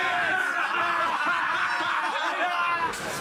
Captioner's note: dwarves laughing